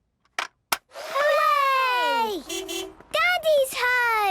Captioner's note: distant beeping